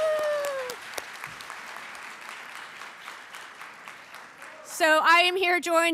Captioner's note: applause